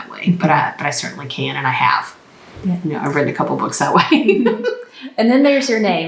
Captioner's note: laughs